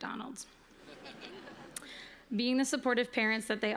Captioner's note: chuckling